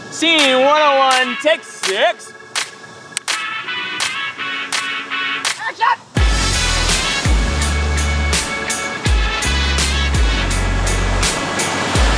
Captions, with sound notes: Scene 101, take six. (clapperboard slamming) Action! (waves crashing)